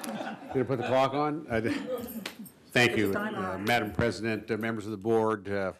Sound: laughter

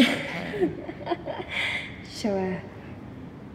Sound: laughs

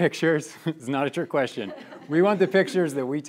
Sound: students laughing

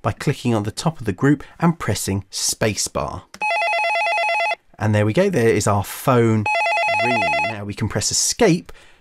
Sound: phone ring sfx

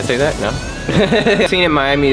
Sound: laughing

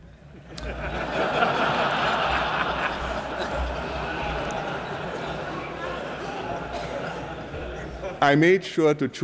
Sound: laughter

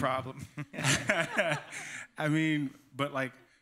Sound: laughter

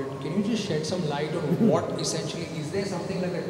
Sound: Sadhguru Laughs

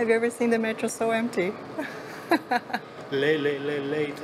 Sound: laughs

